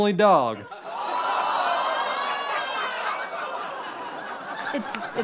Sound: audience yelling in shock

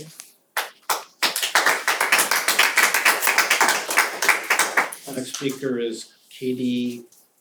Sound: applause

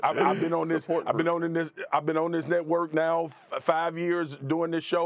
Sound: laughter

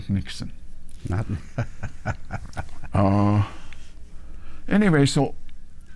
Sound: laughs

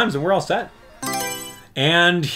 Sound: Mario Selection Sound

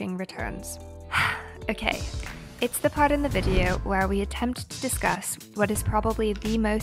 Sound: deep breath

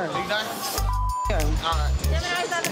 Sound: beep

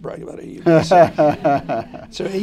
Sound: laughter

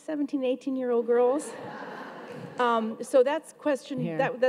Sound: audience laughs

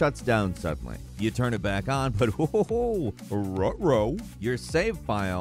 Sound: chuckling

